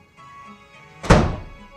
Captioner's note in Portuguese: Porta fecha